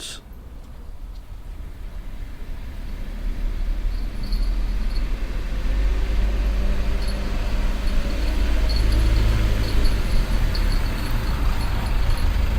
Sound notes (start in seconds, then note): 0.2 van engine rumbling, tinkle of a bell